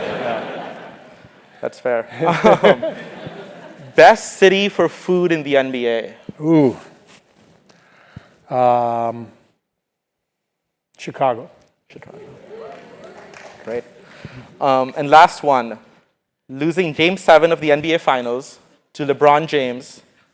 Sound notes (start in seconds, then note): 2.2 laugh